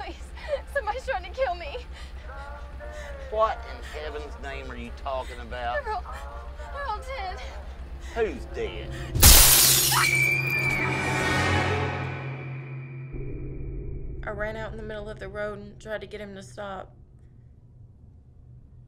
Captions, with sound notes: Please, somebody's tryin' to kill me. - What in heaven's name are you talkin' about? - They're all, they're all dead. - Who's dead? (glass breaks) (Lindsay screams) - I ran out in the middle of the road and tried to get him to stop,